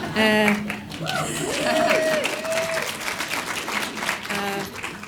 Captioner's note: audience cheers and applauds; audience laughs